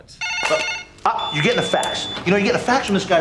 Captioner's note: ringing and beeping